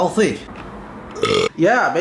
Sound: burp

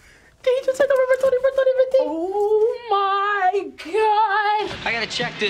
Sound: squeals; chittering like transmitter

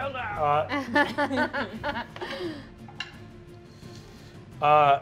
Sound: players laughing

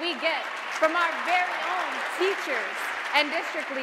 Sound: audience applauding

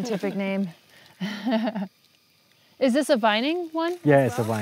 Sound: laughs

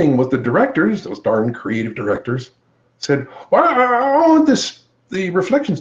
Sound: grunts

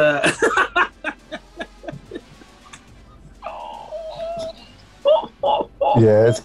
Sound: laughing

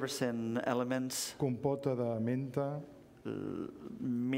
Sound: speaking catalan

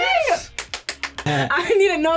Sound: claps

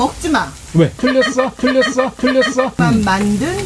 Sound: laughter

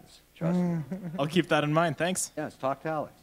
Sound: laughter

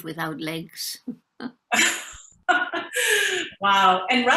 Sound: laughing in unison

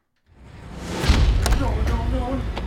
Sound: loud thud

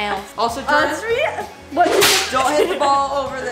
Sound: whipping

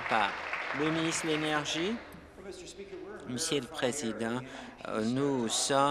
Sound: applause

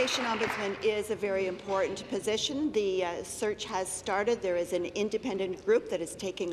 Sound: applause

